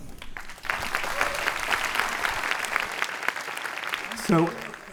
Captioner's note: audience applauds